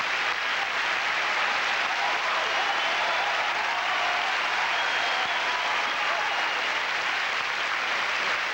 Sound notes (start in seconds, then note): 1.1 cheers